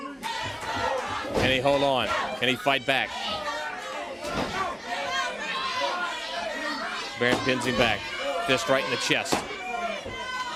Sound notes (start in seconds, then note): 8.6 crowd chattering